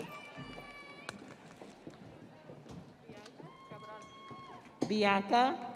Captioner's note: audience cheering